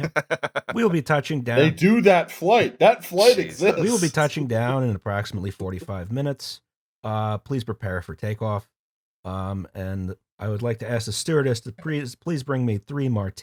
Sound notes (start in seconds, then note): 0.0 laughter; 5.2 pilot voice